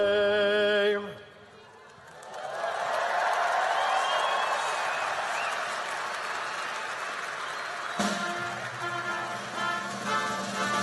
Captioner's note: applause and cheering